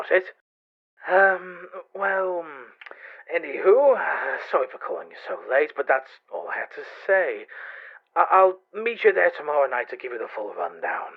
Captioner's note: chuckles